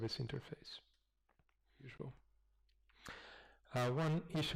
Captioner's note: pause